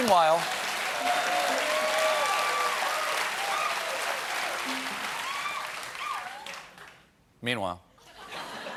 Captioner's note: cheers and applause; laughter